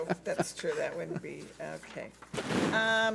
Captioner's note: laughs